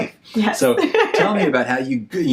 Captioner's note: laughs